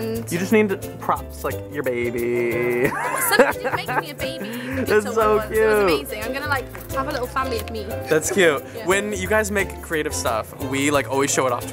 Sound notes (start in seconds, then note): 2.6 laughs